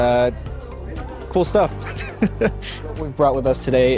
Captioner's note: laughs